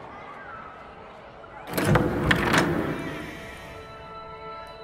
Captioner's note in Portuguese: som de porta abrindo